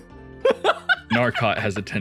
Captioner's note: laughs